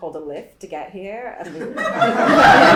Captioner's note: laughter from audience